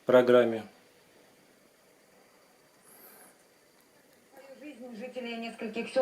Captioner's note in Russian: Звук ТВ